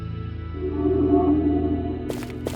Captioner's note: linking sound